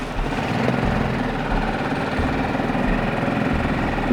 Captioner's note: zipper zipping; engine rumbling